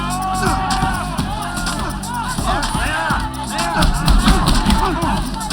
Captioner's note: cheering